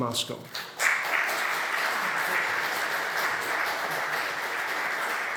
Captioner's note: audience applauding